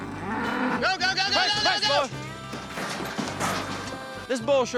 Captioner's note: bull grunts; bull clatters onto trailer